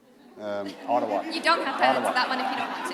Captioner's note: laughter